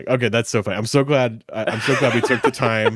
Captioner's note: laughing